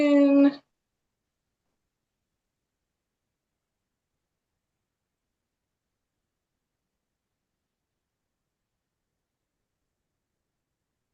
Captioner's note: pause